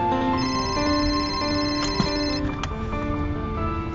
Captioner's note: phone ringing